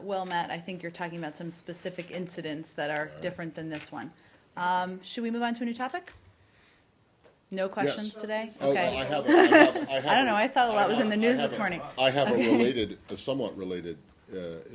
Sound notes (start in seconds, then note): 12.2 laughter